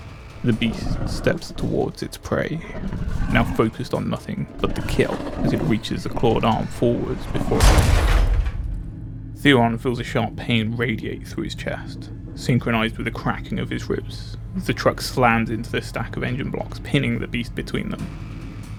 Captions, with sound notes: The beast steps towards its prey, now focused on nothing but the kill as it reaches a clawed arm forwards before../ [Crashing Sounds] Theron feels a sharp pain radiate through his chest, synchronised with the cracking of his ribs. The truck slams into the stack of engine blocks, pinning the beast between them.